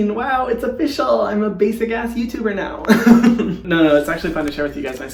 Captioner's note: laughing